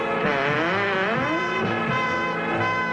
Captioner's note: lively music; door creaking; lively music